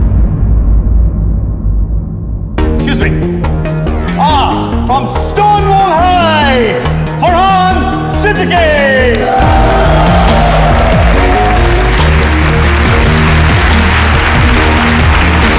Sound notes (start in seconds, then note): 9.0 All cheering, clapping